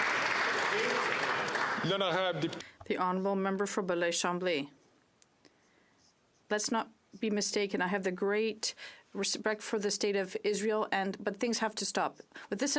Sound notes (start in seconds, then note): 5.5 speaking French